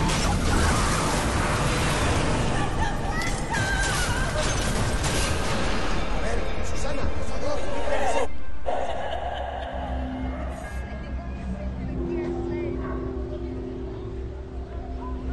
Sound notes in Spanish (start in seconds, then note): 0.0 Estruendo; 2.7 Voces distorsionadas; 7.4 Exclamaciones